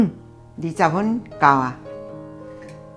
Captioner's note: simmering